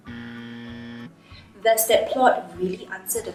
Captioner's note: buzzer buzzes